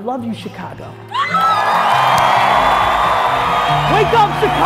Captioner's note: applause, crowd roaring